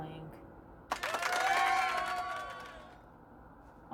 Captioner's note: clapping